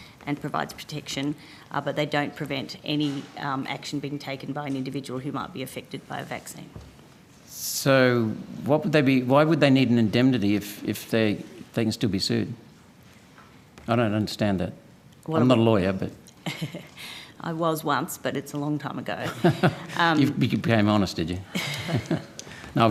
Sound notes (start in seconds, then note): 16.4 chuckling; 19.3 Senator Roberts chuckling